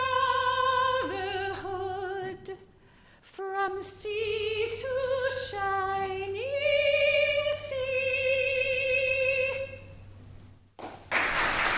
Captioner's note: applause